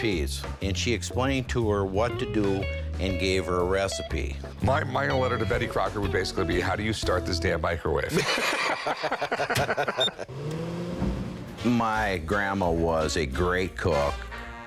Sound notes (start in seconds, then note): 8.1 both laugh; 9.5 microwave beeps and whirs